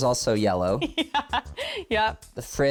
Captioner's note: laughs